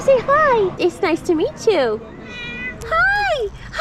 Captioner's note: cat meows